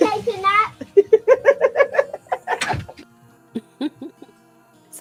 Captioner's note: laughing